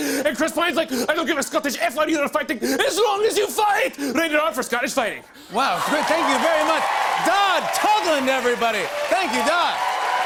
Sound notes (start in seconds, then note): 5.6 cheers and applause